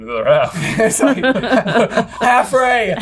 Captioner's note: all laughing